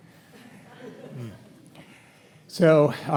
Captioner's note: audience chuckles